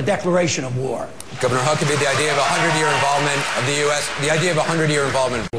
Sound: applause

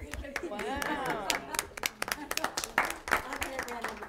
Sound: applause

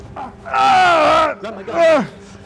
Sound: screams in pain

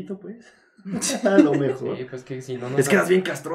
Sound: laughter

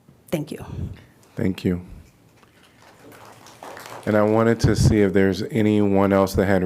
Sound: applause

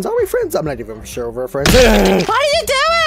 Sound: the sound of brutal death

